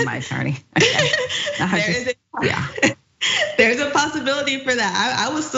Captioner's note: laugh